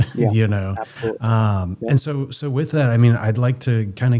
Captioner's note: laughs